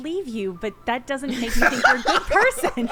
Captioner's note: players laughing